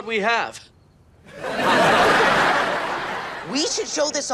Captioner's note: audience laughing